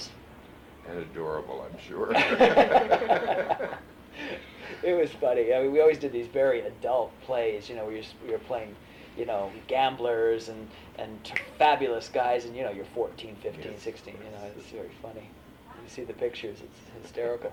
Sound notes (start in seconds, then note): 2.1 laughter; 10.2 snaps fingers